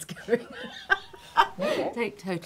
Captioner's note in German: lachen